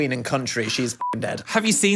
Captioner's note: beep